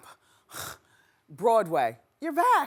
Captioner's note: grunting